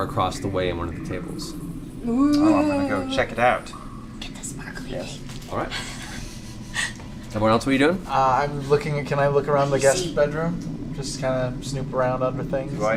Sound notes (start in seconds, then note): 3.9 whispers